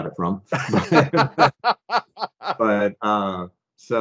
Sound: both laughing

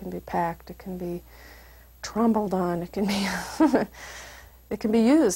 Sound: laugh

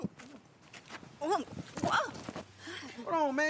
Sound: Hailey yelps

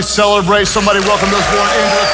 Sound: congregation cheers and applauds

